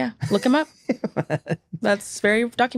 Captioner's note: laughs